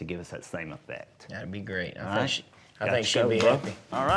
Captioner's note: high-five clap